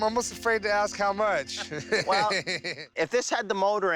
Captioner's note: both laugh